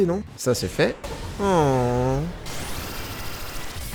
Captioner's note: long sigh